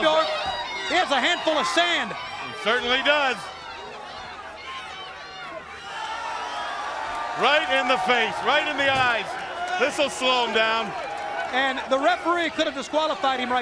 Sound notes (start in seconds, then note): 0.0 crowd chatter; 4.4 crowd chatter